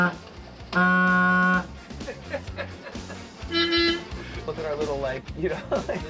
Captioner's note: horn honking